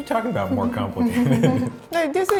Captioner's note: laughing